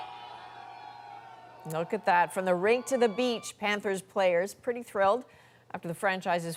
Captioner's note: cheers and Applause